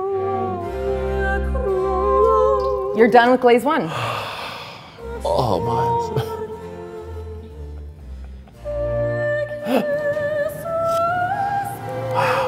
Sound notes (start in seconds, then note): 3.8 sigh; 5.0 choral music; 9.9 gasp